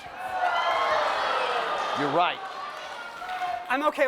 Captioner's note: audience groans